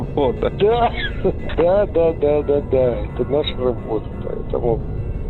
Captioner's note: laughs